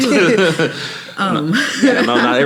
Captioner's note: laughing